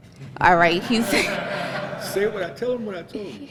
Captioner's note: laughter